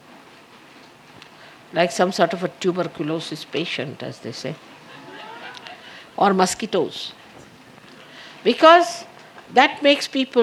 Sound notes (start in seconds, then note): 4.8 laughter